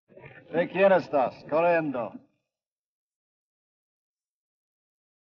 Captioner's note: Ben speaks foreign language